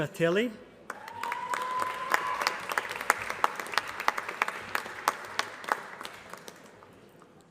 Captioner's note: applause